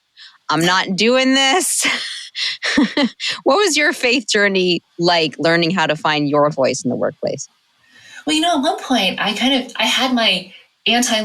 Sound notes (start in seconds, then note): 2.0 chuckle